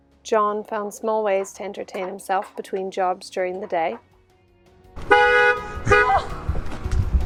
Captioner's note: horn honks